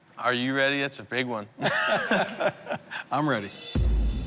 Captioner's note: laughter